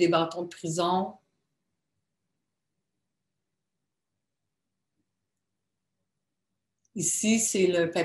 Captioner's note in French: silence